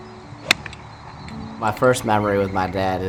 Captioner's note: club whacking